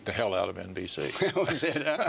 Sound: laughter

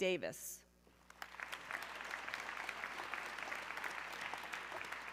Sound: audience clapping

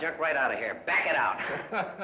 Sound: laughing

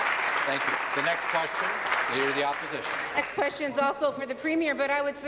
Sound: applause

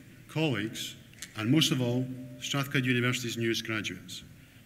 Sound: none

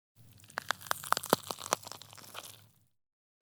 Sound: the sound of wood burning in the kitchen

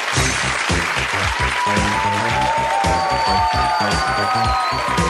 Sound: audience cheering; upbeat music

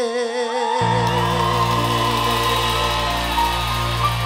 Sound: audience cheering

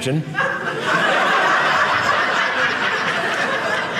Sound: audience laughing

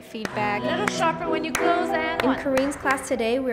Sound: clapping

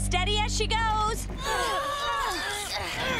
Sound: grunting

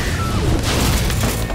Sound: explosion

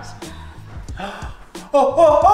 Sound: gasping

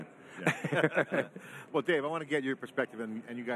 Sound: all laugh

